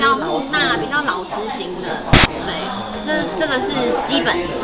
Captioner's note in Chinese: none